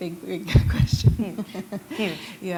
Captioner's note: chuckle